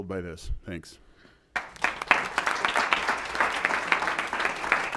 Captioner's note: applause